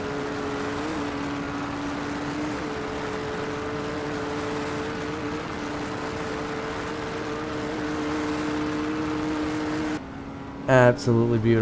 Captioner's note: extremely attractive motorcycle noises